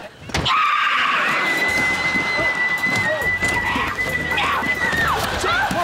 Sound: screaming

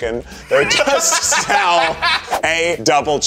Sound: laughs

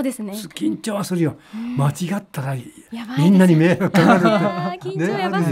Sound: laugh

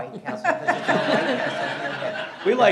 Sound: laughing

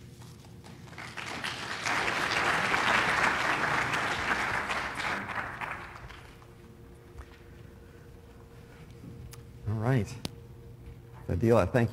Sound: applause

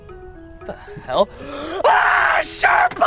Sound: gasps and screams

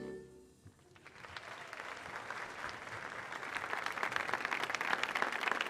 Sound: audience applauding

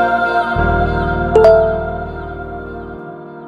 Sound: phone chimes

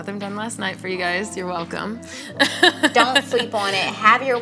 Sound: laughs

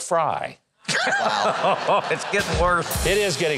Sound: audience laughing

